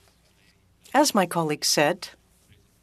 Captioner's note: speaking French